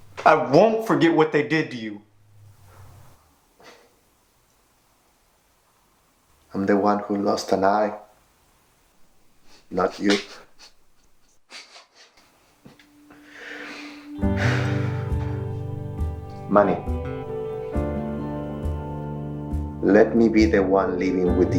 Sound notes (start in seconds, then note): 10.6 Manny chuckling; 10.6 Ramon chuckling; 14.0 atmospheric guitar and piano